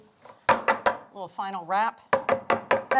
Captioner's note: pan thudding; pan thudding